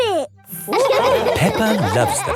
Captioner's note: all laughing